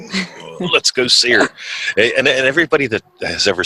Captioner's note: laughs